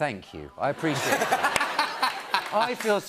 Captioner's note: laughter